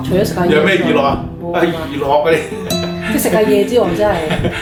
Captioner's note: chuckling